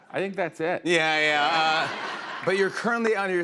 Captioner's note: laughter